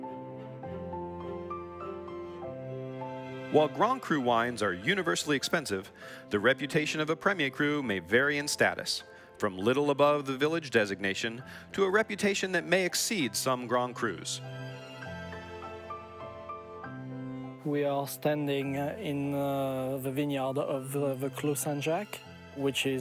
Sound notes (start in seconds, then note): 0.2 calm orchestral music; 15.5 calm orchestral music; 17.8 with French accent